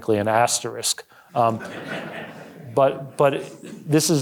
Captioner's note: audience laughing